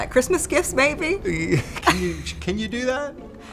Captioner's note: both laugh